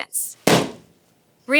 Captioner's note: balloon pops